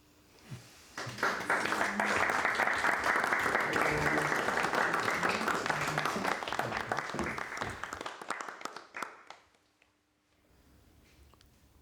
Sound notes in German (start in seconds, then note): 1.0 Applaus